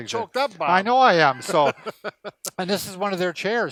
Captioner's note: laughing